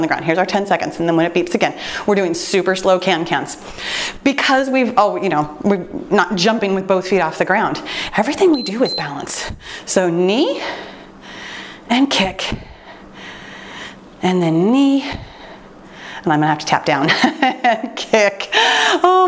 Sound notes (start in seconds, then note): 8.4 timer beeps; 17.2 laughing